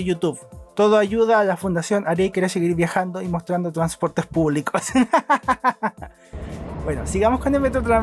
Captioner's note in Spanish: risas